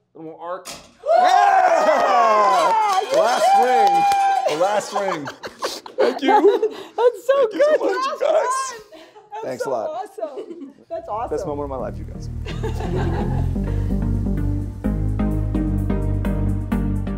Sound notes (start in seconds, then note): 1.0 cheering; 14.4 upbeat music